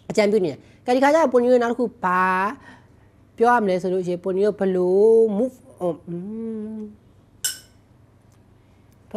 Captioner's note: clink